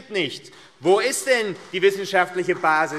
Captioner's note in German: Beifall AfD